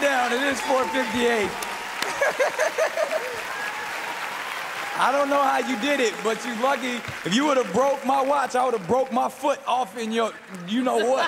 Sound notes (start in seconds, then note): 2.0 laughs